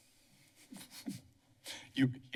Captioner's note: chuckles